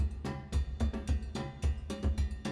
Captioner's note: none